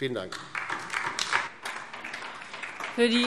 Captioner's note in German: Beifall DIE LINKE